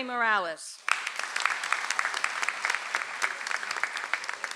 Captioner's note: audience applauds